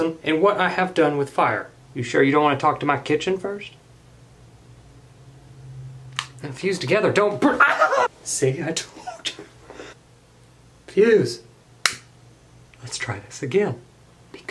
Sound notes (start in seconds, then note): 7.4 laughs; 7.5 yelps